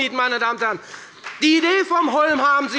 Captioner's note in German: Beifall bei der FDP